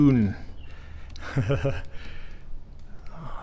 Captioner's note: chuckles